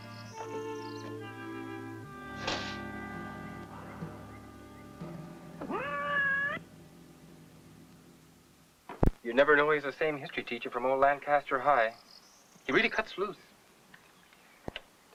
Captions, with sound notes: (ominous instrumental music) (cat meowing) - You'd never know he's the same history teacher from old Lancaster High. He really cuts loose.